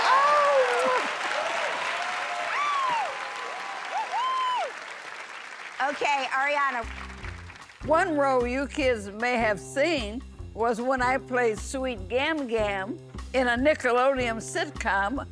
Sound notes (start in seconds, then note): 1.8 cheers and applause